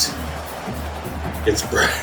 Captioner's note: crowd Noises